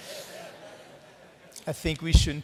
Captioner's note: laughter